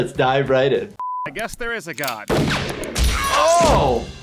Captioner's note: Blitzo fires gun